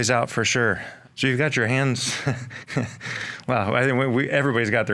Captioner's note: chuckles